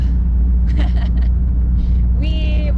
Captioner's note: giggling